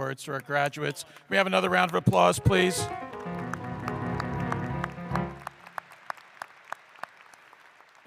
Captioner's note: applause